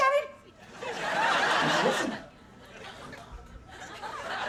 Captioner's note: audience laughing